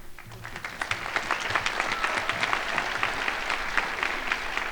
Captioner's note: crowd applauding